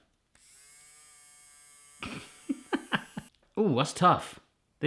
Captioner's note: electric whirring; laughing